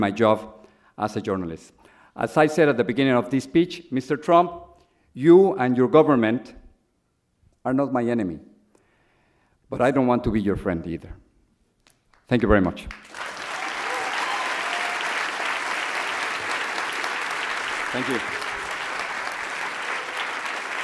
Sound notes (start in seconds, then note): 12.9 audience applauds